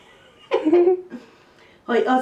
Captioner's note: chuckles